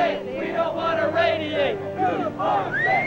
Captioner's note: chants